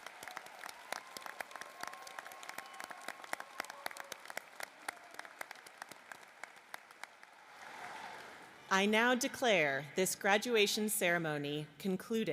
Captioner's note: applause